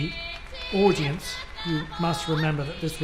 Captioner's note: crowd applauds